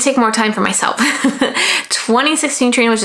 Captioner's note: laughs